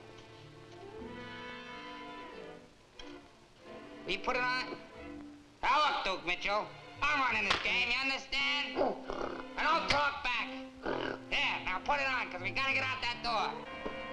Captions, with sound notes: Will you put it on? Now, look, Duke Mitchell. I'm running this game, (hand slaps) you understand? (gorilla snorts) Now, don't talk back! There, now put it on, 'cause we got to get out that door.